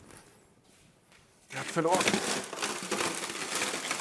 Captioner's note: loud crackling